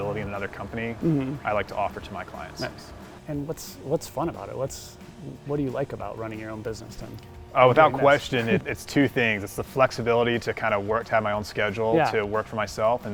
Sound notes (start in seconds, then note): 7.8 laughs